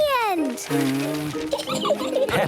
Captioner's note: blows